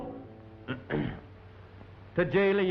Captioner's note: clears throat